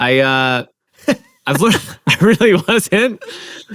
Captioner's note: laughs